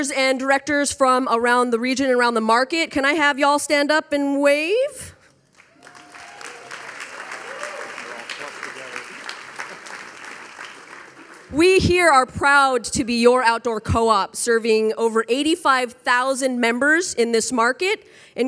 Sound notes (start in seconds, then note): 5.5 audience applauding; 5.6 audience cheering